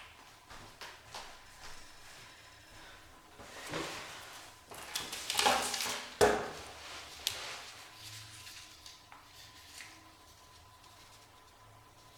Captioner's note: background kitchen noises